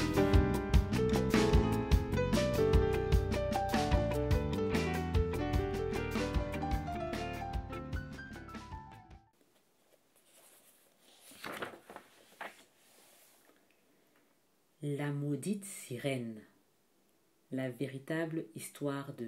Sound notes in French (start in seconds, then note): 5.8 Bruit de page qu'on tourne